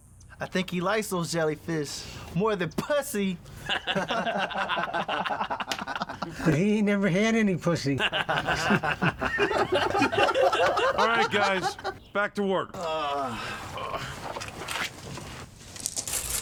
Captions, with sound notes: - I think he likes those jellyfish more than pussy! [others laughing] - He ain't had any pussy. [laughing] - All right, guys, back to work. [painters groan]